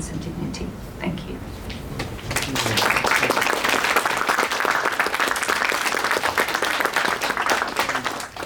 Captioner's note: applause